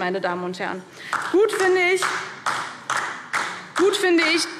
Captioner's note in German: Beifall DIE LINKE